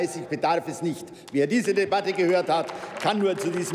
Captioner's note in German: Beifall bei der SPD und dem BÜNDNIS 90/DIE GRÜNEN